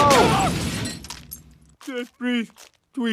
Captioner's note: machine crashes